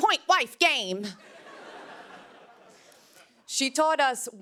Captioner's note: laughter